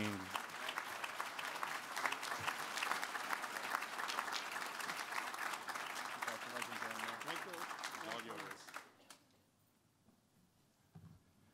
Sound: applause

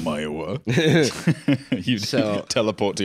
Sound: both laughing

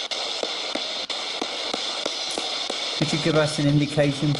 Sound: ghost box hissing

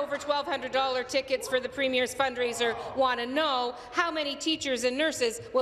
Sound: applause

